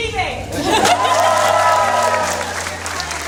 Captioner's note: applause